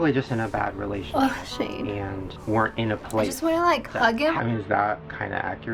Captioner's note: choked up